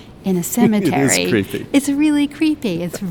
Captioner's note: laughing